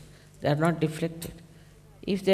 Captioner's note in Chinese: 失真